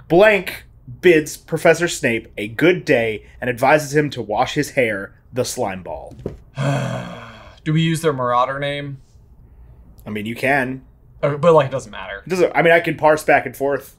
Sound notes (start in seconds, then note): 6.5 groans